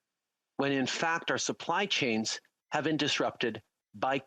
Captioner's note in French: voix de l'interprète